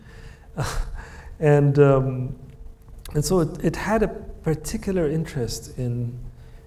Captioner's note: chuckles